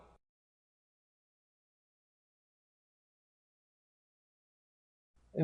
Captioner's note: silence